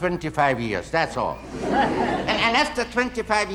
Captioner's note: audience laughing